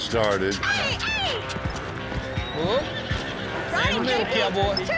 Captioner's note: horse neighs, bucks